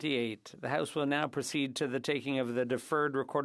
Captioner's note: speaking French